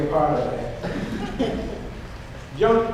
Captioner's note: audience laughs